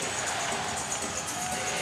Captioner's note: crowd chanting, "defense"